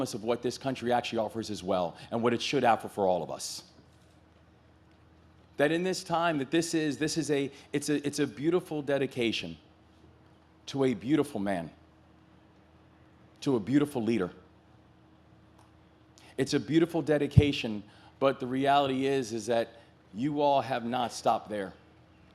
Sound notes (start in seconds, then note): none